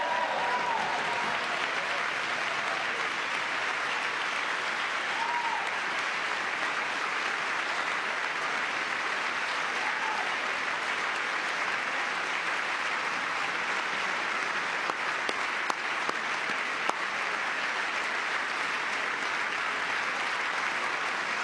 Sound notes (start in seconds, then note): 2.8 cheering; 4.3 applause; 8.3 cheering; 19.8 applause